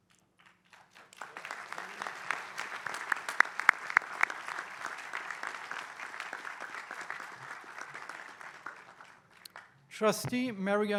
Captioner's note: applause